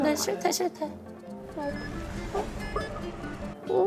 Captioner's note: beep beep